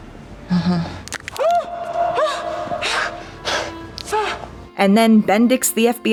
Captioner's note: the sound of bones breaking and the guy squawking in pain